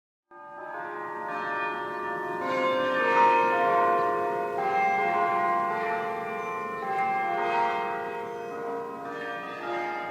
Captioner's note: carillon sounds